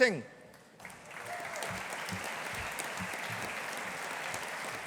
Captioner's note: audience applauding